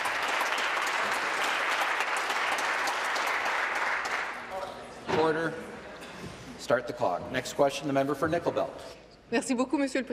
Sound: applause

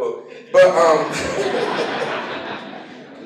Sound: laughter

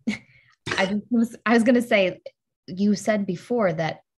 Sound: laughs

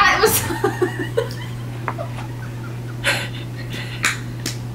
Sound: laughing

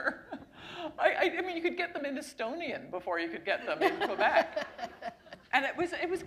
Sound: laughter

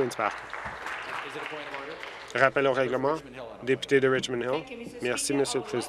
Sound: applause

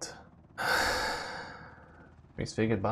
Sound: sigh

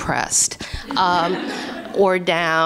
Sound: laughter

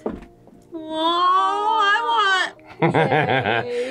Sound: laughs

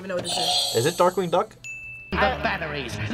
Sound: bell rings; buzzer rings

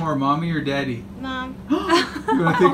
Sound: gasping; laughing

